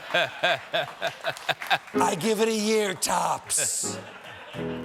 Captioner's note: laughter; piano riff